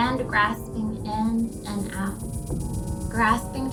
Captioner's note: dark sound intensifies